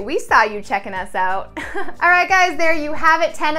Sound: laughs

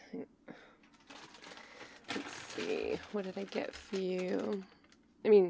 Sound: bag rustling

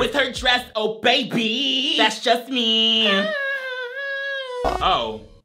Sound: humming

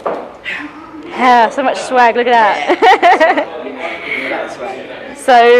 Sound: laughs

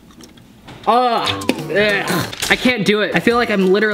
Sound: gags

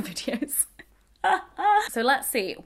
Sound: laughing

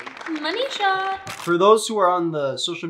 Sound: camera snaps

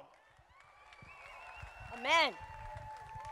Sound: crowd applauding

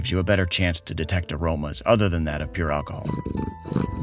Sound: none

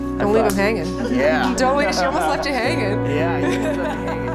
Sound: group laughs

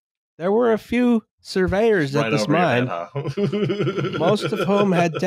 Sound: laughs

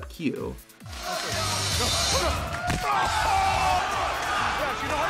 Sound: crowd cheering

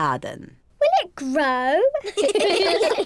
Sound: all laugh

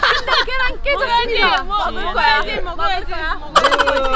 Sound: haha

